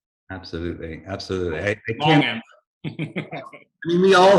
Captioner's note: laughing